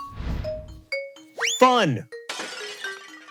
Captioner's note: whistle; glass shatters